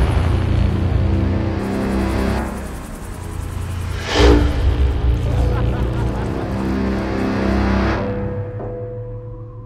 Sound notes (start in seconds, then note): 4.9 laughs